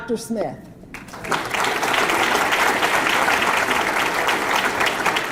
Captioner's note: audience clapping